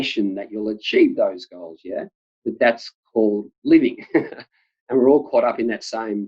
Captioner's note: laughs